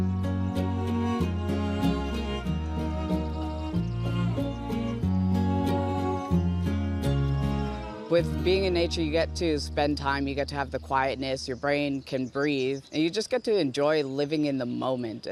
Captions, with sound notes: (gentle music continues) (birds chirping) With being in nature, you get to spend time, you get to have the quietness, your brain can breathe, and you just get to enjoy living in the moment.